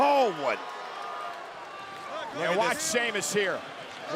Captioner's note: applause